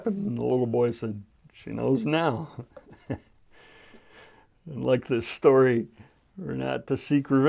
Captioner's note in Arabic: ضحك